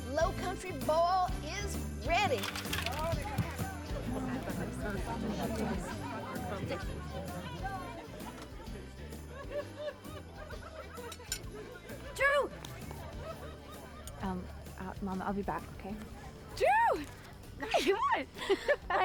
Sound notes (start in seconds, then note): 2.4 vegetables thud on table; 3.9 people chattering